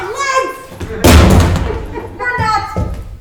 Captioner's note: bag thudding